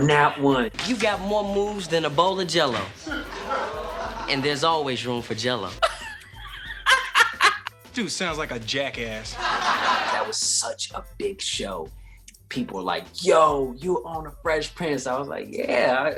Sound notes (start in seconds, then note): 5.8 laughs; 9.0 laugh track plays